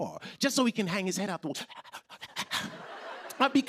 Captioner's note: imitating dog panting; laughter